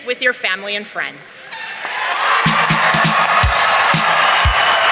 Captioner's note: audience cheering